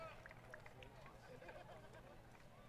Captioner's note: applause